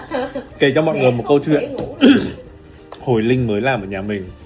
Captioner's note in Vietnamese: hắng giọng